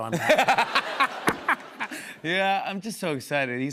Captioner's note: laughs